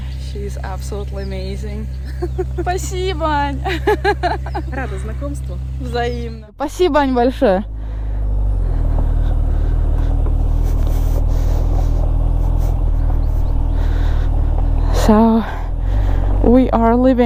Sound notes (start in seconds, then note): 2.0 in Russian